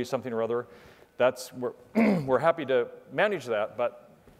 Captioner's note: cough